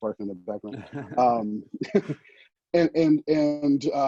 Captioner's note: laughing